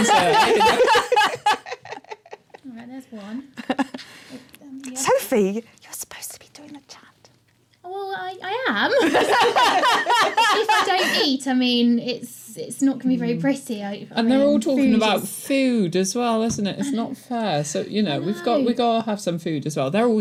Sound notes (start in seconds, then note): 0.0 laughter; 5.4 whispering; 8.9 laughter